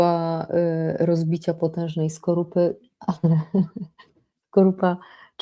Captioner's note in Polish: śmiech